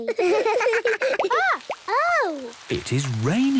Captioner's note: water dripping